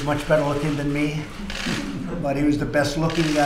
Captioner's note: laughter